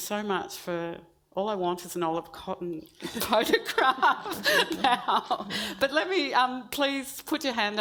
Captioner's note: laughs